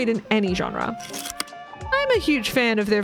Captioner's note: projector slide click